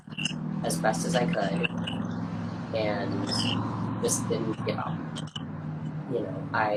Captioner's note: cars pass loudly on street in background